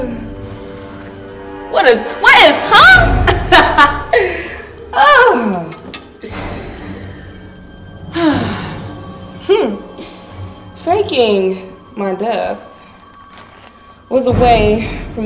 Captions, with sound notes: Oh, fuck. What a twist, huh? (Nicole laughs) Faking my death was a way for me to go unnoticed.